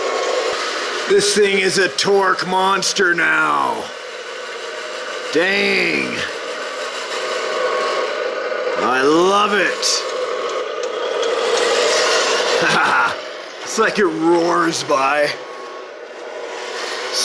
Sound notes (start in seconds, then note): 11.2 truck engine roars; 12.5 laughs